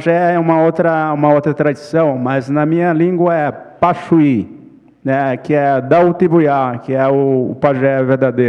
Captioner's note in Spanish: ponente habla en portugués